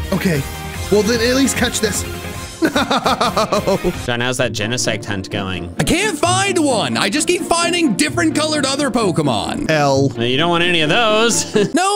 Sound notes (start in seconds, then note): 2.6 sobbing